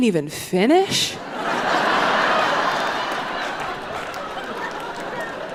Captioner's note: audience laughing